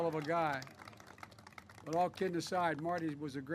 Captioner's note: applause